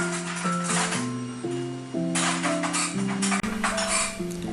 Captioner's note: metal Jingling from someone rifling through a drawer